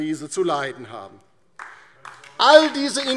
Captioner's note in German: Beifall DIE LINKE